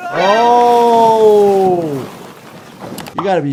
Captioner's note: rocks crashing